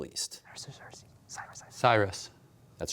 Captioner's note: whispering